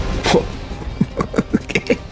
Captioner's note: laughs to myself